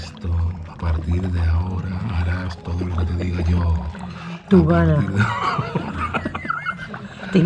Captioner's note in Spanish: risas